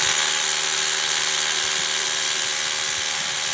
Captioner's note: drill whirring